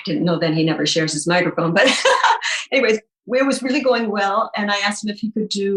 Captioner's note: laughing